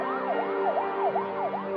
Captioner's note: sirens wailing